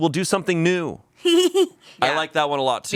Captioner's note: laughing